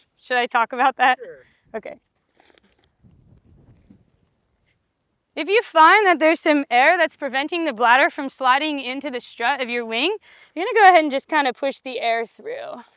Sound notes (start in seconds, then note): 2.9 wind blowing